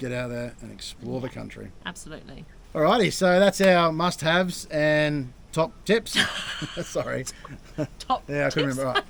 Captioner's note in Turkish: Gülüşmeler